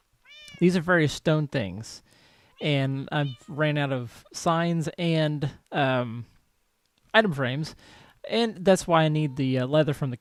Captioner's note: cat meows